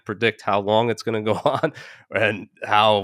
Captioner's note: laughing